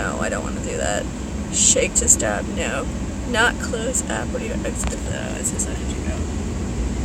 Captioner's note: vehicle sounds alarm tone